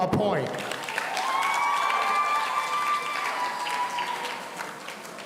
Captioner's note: audience cheering